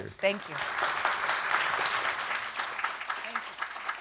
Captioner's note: audience applauding